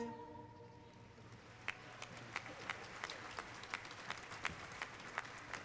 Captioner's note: applause